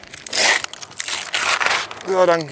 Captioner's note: rustling